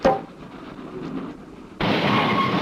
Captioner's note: brakes screeching